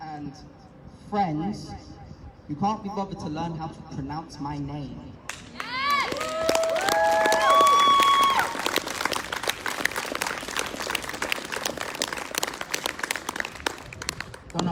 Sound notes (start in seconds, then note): 5.5 whooping; 8.2 applause